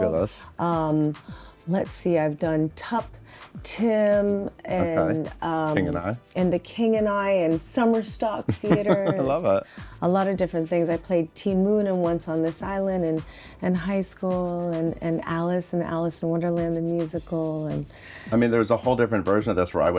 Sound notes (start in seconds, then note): 8.4 chuckles